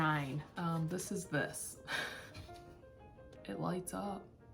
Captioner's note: laughter